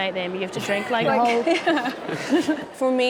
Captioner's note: laughing